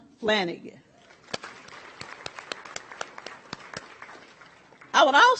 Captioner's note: audience applauds